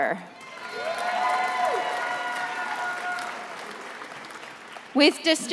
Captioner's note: attendees applauding and cheering